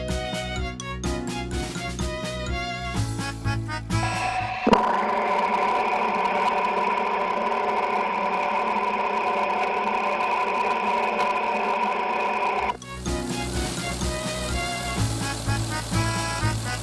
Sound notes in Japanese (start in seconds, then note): 7.9 壊れたオルタネーターの音